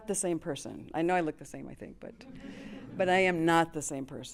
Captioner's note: chuckles